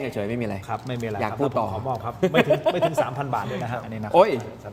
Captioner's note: laughter